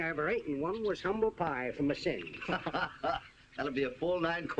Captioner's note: laughter